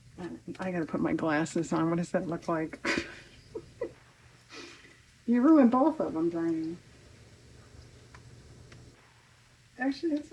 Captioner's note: laughs